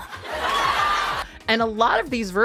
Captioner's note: attendees laughing